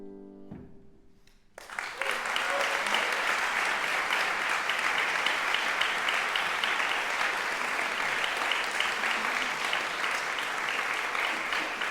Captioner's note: applause